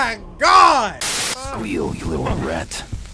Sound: static

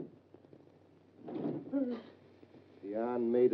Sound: June gasps

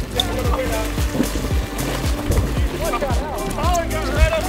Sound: water splashing

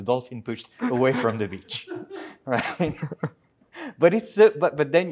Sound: laughter

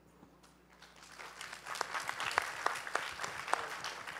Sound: applause

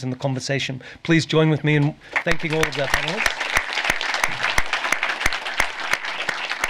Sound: applause

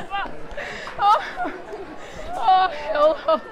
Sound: continues laughing

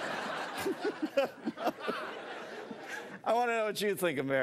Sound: laughs

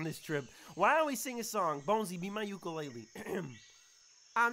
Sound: clears Throat

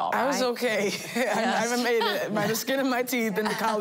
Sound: laughing

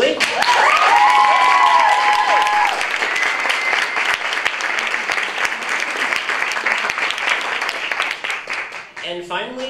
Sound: applause

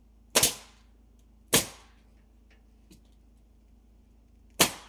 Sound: nail gun bangs

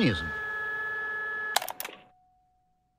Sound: tape STOP

